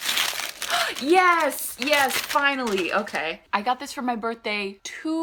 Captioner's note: gasp